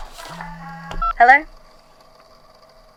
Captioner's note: beep of a call being answered